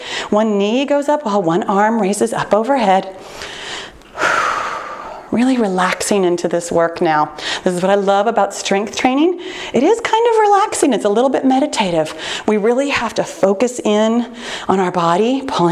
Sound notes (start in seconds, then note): 4.1 exhales loudly